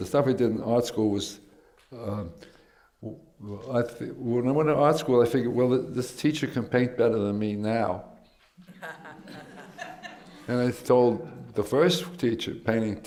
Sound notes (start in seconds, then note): 8.6 laughter